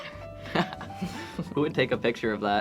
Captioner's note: laughs